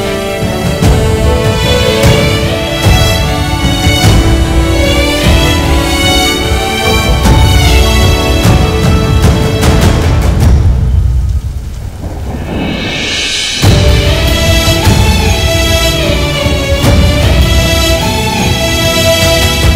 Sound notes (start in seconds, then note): 11.9 Thundering